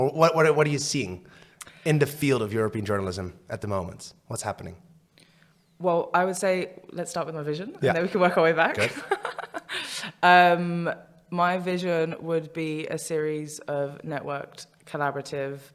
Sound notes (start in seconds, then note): 8.7 laughs